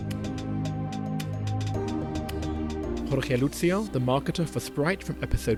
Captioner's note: voiceover